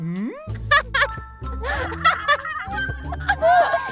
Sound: burst into laughter

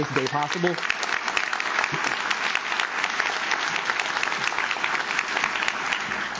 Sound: audience claps; audience cheers

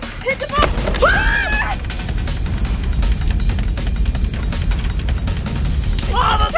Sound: bomb exploding; screaming

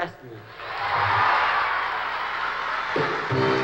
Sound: cheering and applause

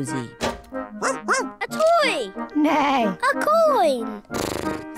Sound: barks; neighs; snorts

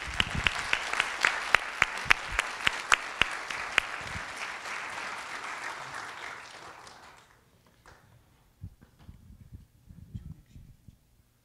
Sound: applause

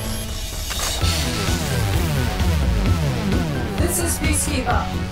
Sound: laser buzzing

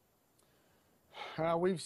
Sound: sighs

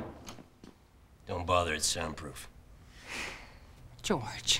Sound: sighs

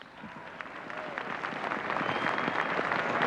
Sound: applause

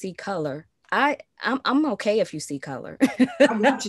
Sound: laughs

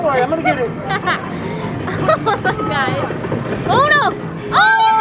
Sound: laughing

